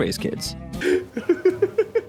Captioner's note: laughing